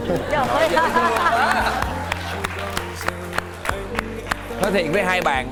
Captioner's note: cheering